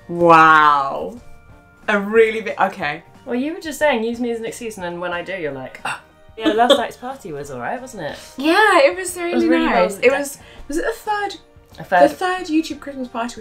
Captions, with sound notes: - Wow. A really big, okay. - Well, you were just saying use me as an excuse and then when I do, you're like (gasps) Yeah, last night's party was all right, wasn't it? - Yeah, it was really nice! Was it the third YouTube Christmas party we've been to?